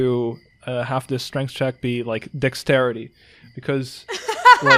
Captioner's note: laughs